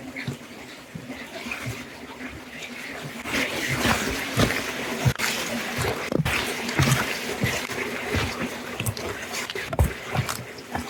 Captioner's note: sound of Water